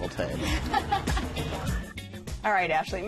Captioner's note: laughter